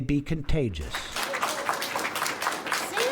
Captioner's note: applause